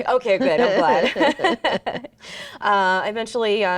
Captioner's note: both laughing